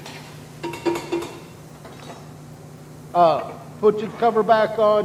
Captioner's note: utensils clanking